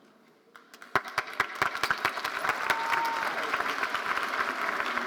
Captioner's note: audience applauding